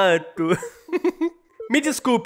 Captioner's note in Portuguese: Risos